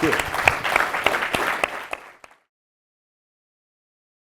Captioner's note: applause